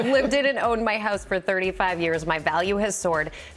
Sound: laughs

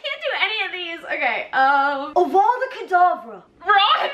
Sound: Ron impression

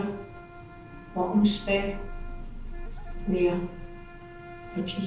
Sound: speaking in a foreign language

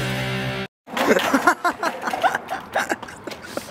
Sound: laughs ridicilously

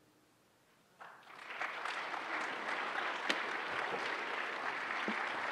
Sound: applause

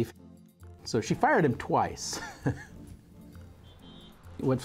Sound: laughing

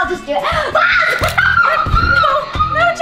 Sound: squeals and laughs

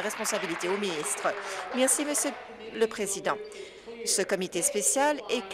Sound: applause

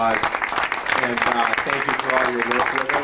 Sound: audience applauds

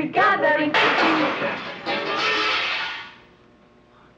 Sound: loud clattering

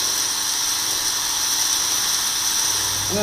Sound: hissing sound

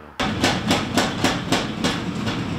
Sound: thudding

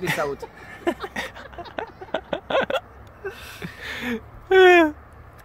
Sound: laughs

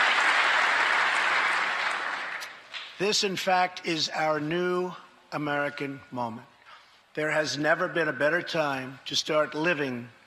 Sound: applause

